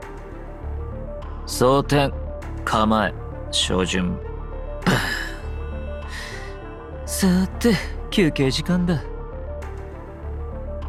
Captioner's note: sighs